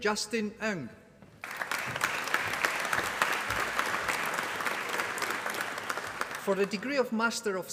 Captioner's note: applause